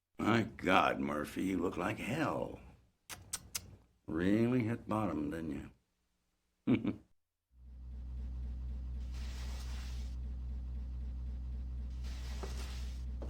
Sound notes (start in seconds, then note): 6.7 laugh